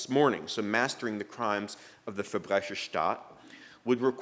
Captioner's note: speaking german